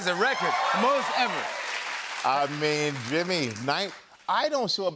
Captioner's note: cheers and applause